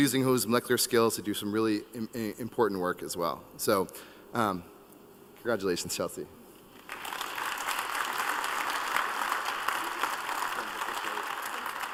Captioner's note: applause